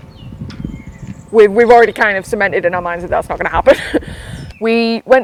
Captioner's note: laughs